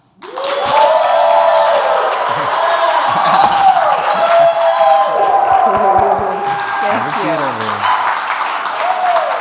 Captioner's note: applause and cheers